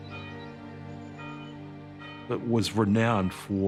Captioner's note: bell tolls